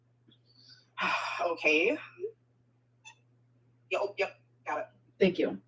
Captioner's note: sighs